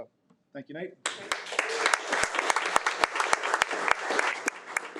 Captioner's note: audience clapping